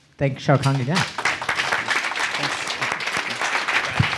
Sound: audience applauding

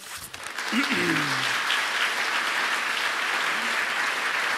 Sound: audience applauds

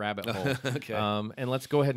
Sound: laughter

